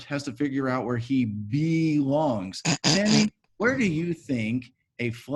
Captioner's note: Sammy snickers